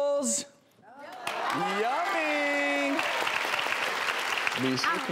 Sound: crowd cheering

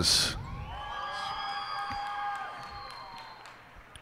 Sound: cheers and applause

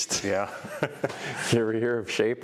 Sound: laughs

